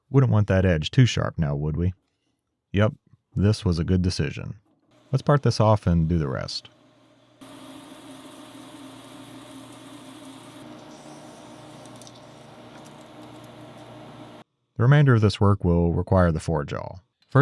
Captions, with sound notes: Wouldn't want that edge too sharp now, would we? Yep, this was a good decision. Let's part this off and do the rest. (machine whirring) The remainder of this work will require the four jaw,